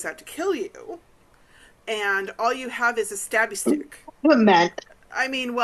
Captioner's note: cough